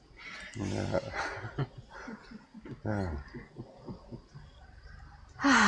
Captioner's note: laughter